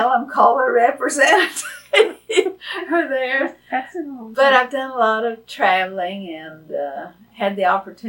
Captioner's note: laughs